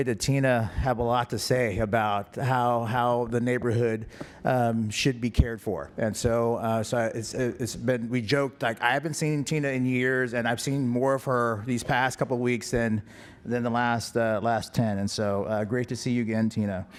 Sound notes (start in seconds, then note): none